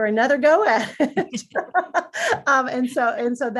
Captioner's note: everyone laughs